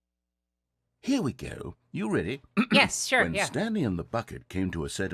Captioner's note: clears throat